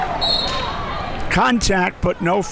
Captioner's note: whistle blows